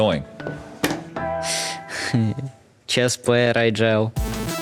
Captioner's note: laughs